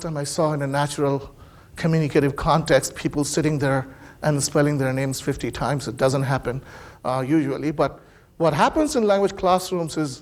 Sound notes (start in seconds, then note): none